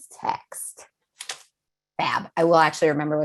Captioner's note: paper slaps